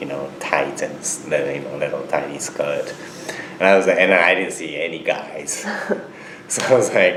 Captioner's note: both laugh